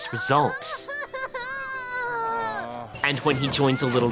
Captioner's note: Kun crying; dad groans